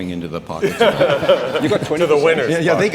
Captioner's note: audience laughing